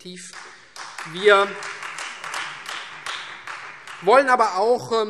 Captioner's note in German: Beifall Freie Demokraten